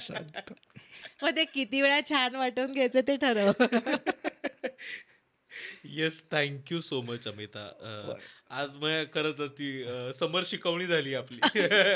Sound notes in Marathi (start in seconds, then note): 3.3 हास्य